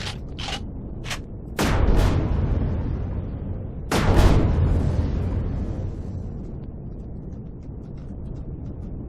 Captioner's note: explosion